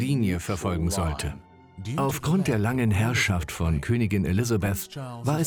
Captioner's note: voiceover